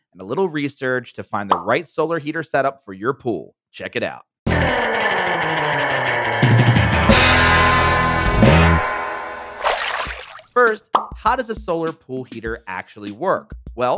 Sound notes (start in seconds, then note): 4.6 upbeat music; 9.6 water splashing